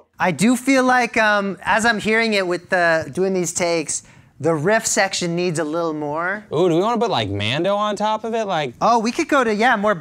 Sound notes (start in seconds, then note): none